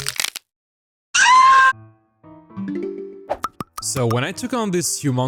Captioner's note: screams in agony